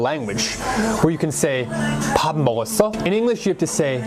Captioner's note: Korean